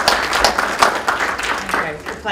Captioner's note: applause